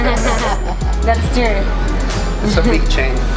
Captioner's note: laughing